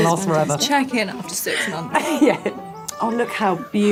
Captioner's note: laughing